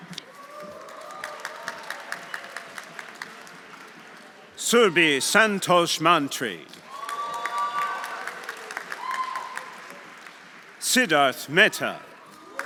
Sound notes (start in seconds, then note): 0.1 audience cheering; 0.4 audience applauding; 6.8 audience applauding; 6.9 audience cheering